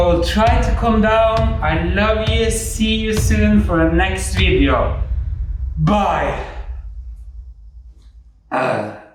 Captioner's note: sighs of dispear